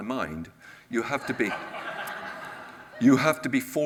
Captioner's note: audience laughs